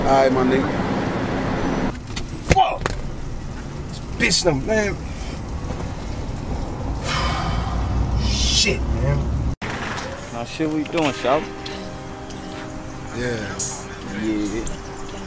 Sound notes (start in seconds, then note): 7.0 man sighing; 12.7 mellow trap music